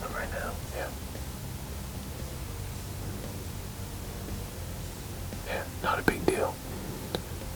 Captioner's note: whispering